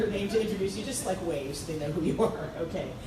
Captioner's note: laughs